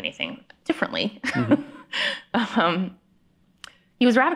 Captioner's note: chuckles